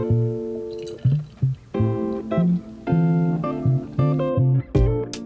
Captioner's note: beer fizzes